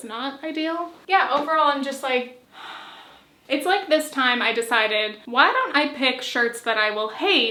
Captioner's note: sigh